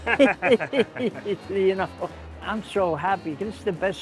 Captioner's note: laughter